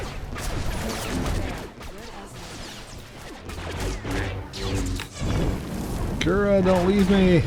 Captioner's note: gunfire